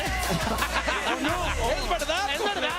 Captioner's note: laugh